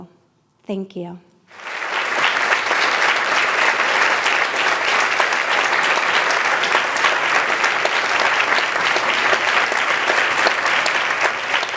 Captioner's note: applause